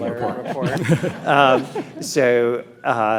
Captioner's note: panelists chuckle